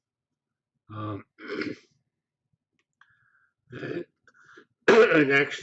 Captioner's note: pause